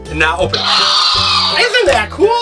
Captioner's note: dinosaur roar